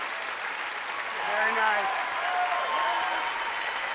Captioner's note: cheers and applause